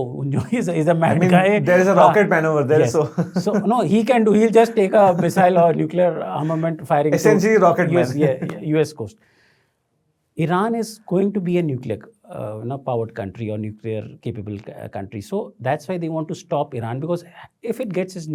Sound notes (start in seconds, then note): 0.4 chuckles; 7.8 chuckles